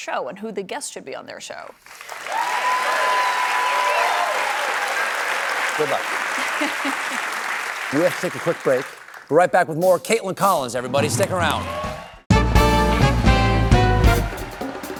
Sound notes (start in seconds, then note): 1.8 cheers and applause